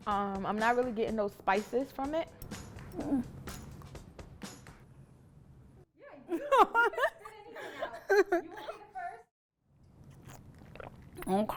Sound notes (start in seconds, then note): 2.9 groaning; 10.1 laughing